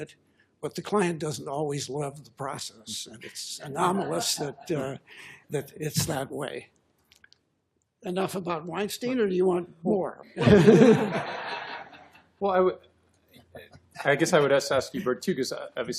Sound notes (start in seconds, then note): 10.4 laughter